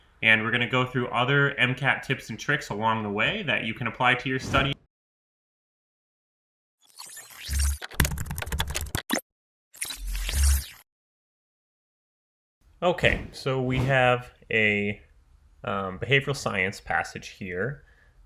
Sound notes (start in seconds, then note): 4.4 scene whooshes; 7.8 keyboard typing; 10.5 scene whooshes